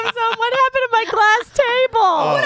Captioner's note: laughs